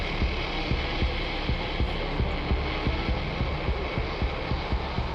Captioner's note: heartbeat thumping